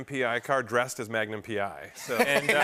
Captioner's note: laughter